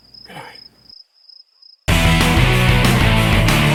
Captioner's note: whispering; crickets chirping; energetic music